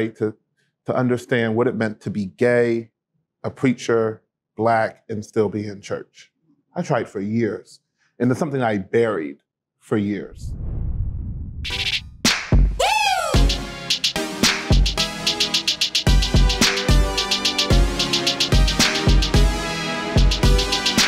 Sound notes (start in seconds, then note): 10.3 whoosh sound; 12.8 theme music plays